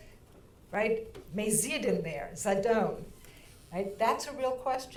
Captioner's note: speaking in foreign language